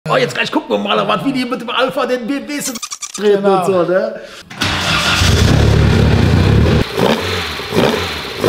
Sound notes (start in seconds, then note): 4.5 engine sound